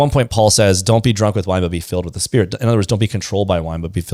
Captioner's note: none